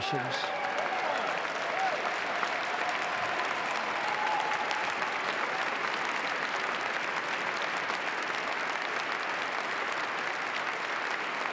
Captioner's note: applause